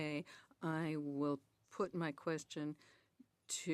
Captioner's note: speaking French